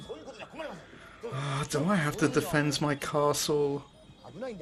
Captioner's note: siiiigh